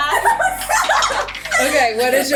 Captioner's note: girls laughing